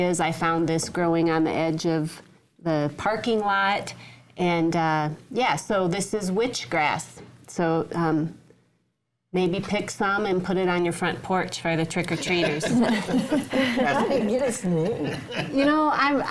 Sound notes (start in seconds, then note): 12.4 panel laughing